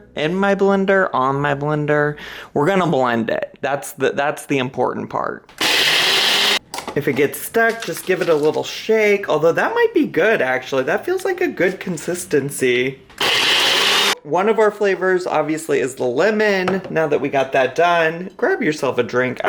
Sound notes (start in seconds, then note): 5.5 blender whirring; 13.1 blender whirring